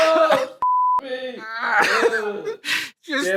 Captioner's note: laughing